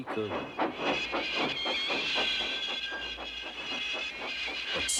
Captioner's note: squeaking